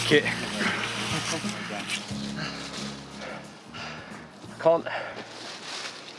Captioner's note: panting